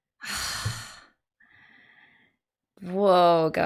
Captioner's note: dejected sigh